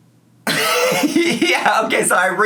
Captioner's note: laughs